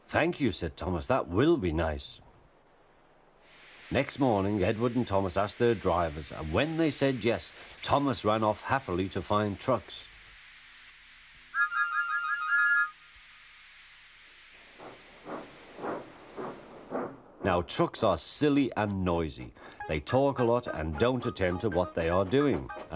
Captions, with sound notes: "Thank you," said Thomas. "That will be nice!" [Steam hissing] Next morning, Edward and Thomas asked their drivers - and when they said "yes" - Thomas ran off happily to find trucks. [Thomas joyfully whistles several times, then sets off] Now - trucks are silly and noisy. They talk a lot and don't attend to what they are doing.